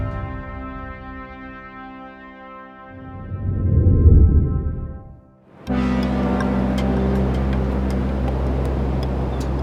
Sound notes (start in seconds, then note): 3.7 words whoosh; 5.6 uplifting music